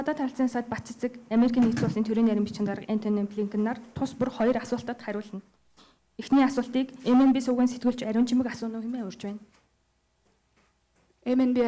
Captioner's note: in Mongolian